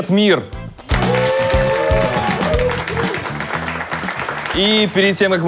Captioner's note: applause